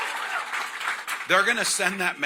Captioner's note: cheering